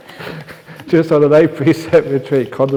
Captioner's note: laughter